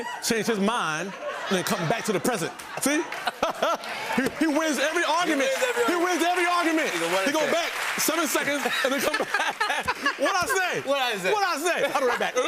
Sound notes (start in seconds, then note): 3.0 cheering and applause; 8.4 laughs